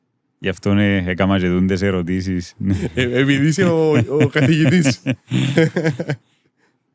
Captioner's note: laughter